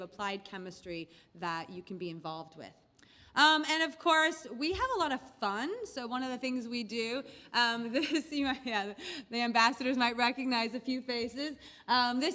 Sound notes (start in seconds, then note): 8.3 laugh